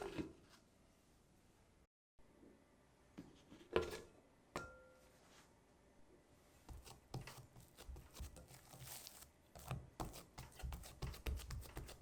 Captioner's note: folding